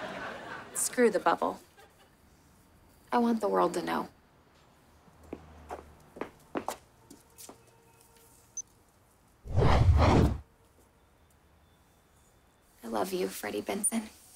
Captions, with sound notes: Screw the bubble. I want the world to know. [beeping] I love you, Freddie Benson.